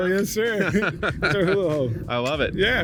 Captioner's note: laughing